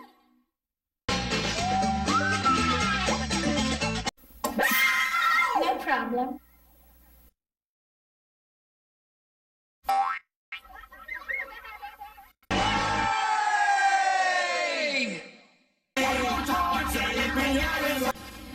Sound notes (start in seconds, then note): 4.6 kids screaming; 10.5 boing, kids laughing